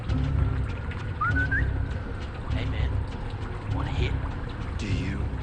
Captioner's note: whistles